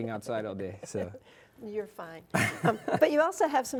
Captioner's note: laughing